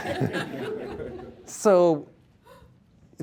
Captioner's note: laughter